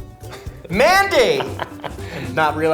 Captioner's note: Ben laughs